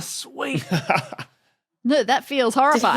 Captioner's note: laughs